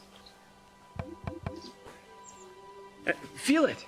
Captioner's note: knocking on border